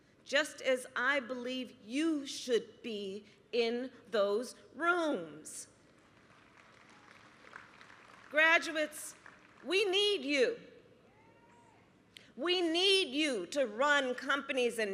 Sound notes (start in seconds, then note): 5.8 applause